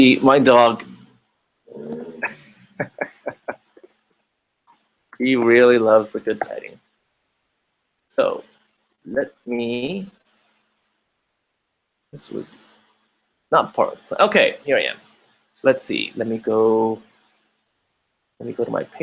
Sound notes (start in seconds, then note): 3.3 laughing